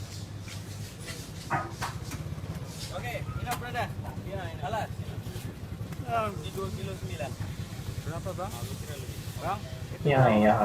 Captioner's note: background noise and hawker talking in Malaysian language